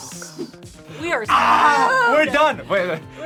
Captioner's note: whispers; screams